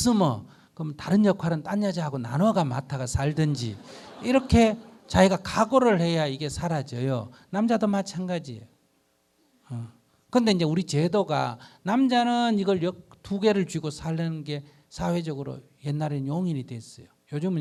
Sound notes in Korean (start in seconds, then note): 3.3 청중 웃음